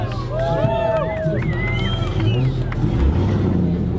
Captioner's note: exhaust sounds